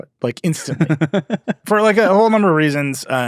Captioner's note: laughing